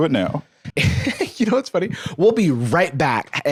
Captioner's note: laughs